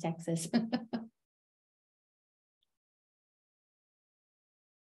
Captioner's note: laughs